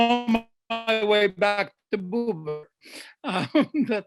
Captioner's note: laughs